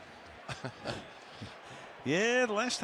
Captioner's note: laughs